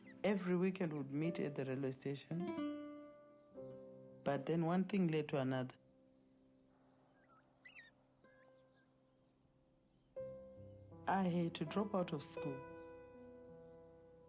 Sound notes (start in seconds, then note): none